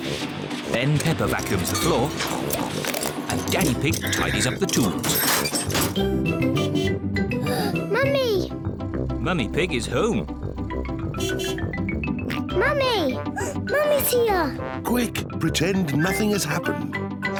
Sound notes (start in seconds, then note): 1.4 oinks; 5.8 horn beeps; 7.3 gasps; 11.1 horn beeps; 12.0 oinks; 13.1 gasps